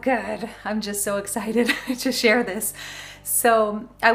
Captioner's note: chuckles